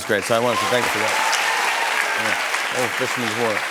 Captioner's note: cheers and applause